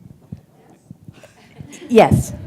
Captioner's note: laughter